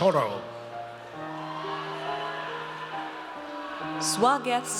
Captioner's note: audience cheers